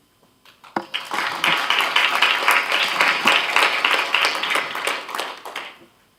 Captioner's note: applause